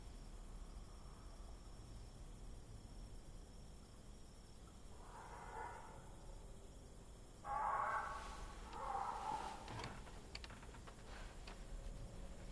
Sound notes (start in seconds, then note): 5.2 distant Death Bird call